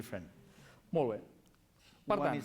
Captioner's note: non-english speech